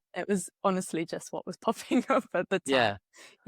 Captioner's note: laughs